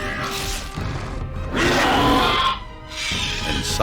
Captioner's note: roars